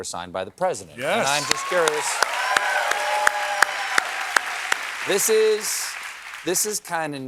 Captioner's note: cheers and applause